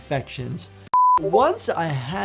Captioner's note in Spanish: pitido de pantalla